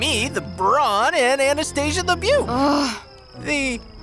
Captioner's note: grumbles